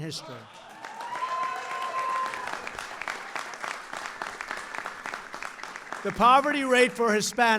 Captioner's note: applause